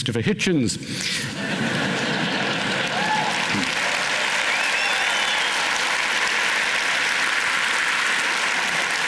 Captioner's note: laughter, applause, cheering